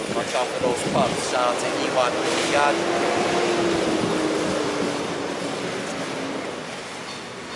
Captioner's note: motor engine whirring